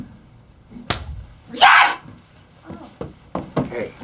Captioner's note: strikes, screams, and runs